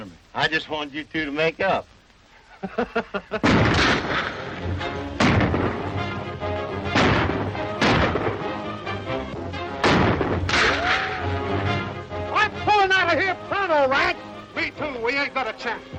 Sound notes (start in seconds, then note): 2.4 laughs; 3.4 dramatic music; 3.4 gun banging